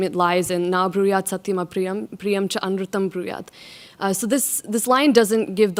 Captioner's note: speaks in foreign language